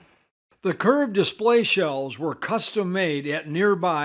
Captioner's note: voiceover